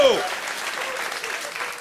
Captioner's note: normal voice